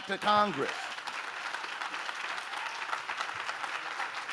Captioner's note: audience claps